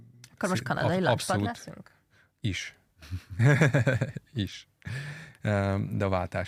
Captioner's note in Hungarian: nevetés